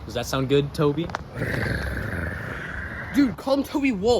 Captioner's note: growls